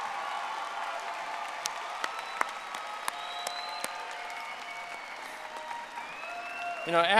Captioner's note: audience applauding